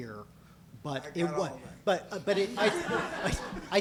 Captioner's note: voiceover